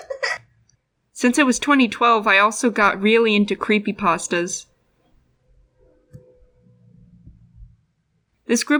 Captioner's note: laugh; creepy sound